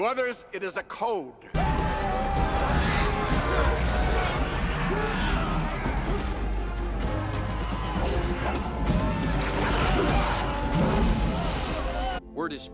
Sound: snarling termites

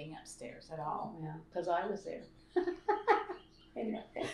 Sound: laughter

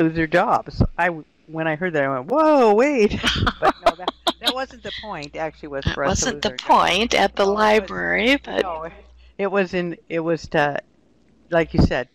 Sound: laughing

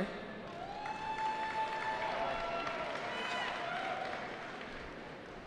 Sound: cheering

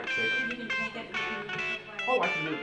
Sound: indistinct chatter

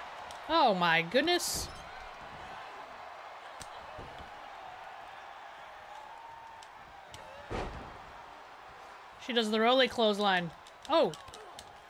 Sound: applause; applause; applause

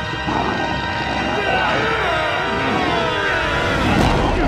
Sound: grunting

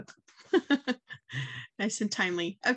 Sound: chuckling

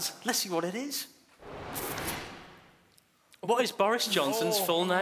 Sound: whooshing

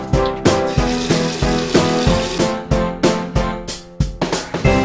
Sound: water running

